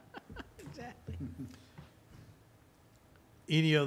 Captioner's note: laughing